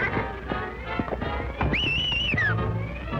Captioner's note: whistling